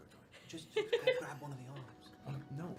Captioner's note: laughter